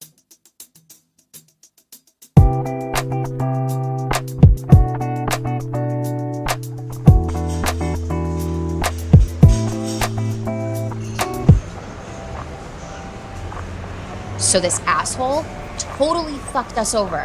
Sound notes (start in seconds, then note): 2.3 jazz music; 6.9 dishes clanking